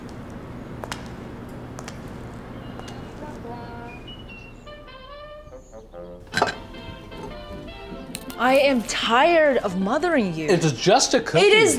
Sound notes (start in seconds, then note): none